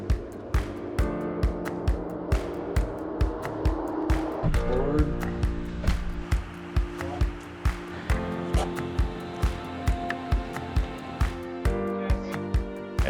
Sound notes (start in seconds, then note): 1.2 aircraft taking off